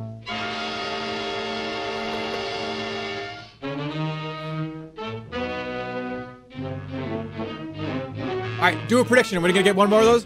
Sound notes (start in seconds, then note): 0.1 piercing note plays; 2.0 laughs wheezily